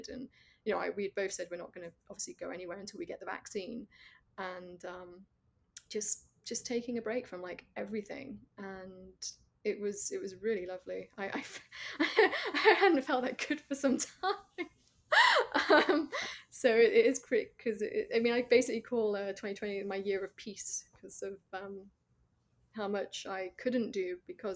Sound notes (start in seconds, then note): 15.9 laughs